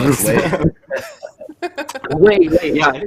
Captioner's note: laughter